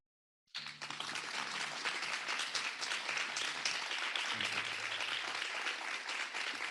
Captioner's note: audience applauding